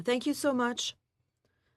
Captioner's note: speaking French